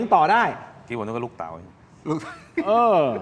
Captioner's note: laughs